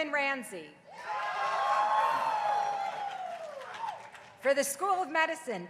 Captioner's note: crowd cheering